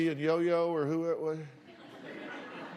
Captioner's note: laughter